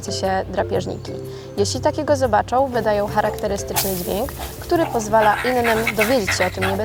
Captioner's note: sounds of meerkats in the background